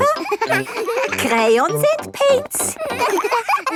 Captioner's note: all laughing